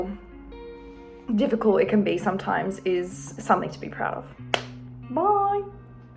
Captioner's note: claps